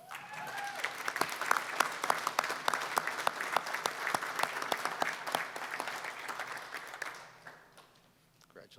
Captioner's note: applause